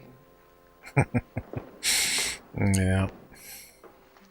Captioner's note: chuckling